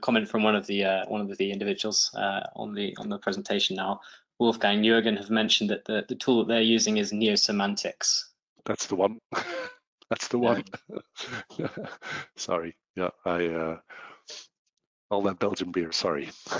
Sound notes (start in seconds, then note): 10.1 laughs; 10.1 laughing